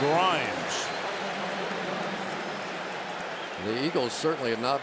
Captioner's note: pa announcement